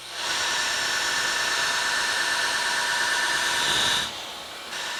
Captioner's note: blacksmith tool whirring